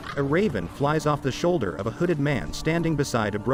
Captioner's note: falcon squawks